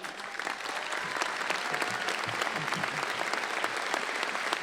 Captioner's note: applause